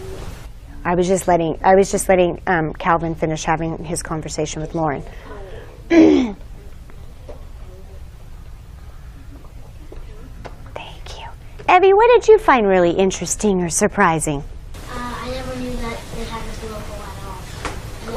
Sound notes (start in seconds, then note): 0.0 whispering; 6.3 whispering